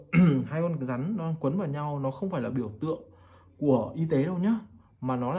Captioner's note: clears throat